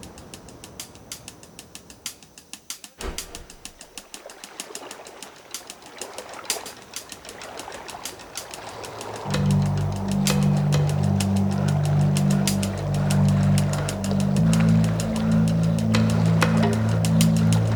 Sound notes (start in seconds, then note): 0.2 tense music; 5.2 stone skipping on water; 14.4 tense music continues